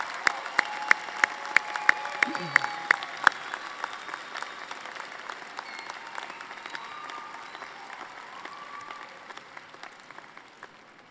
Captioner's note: applause